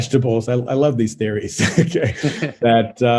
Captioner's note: laughs